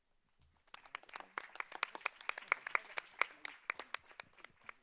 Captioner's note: audience applause